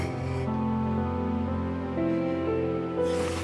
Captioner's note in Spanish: sollozos